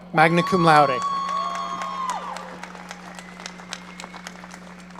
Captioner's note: audience cheering